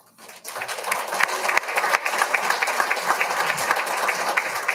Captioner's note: all applauding